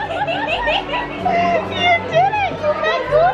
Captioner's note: laughs